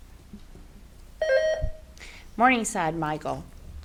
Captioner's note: buzzer beeps